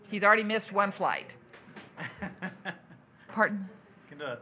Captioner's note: laughs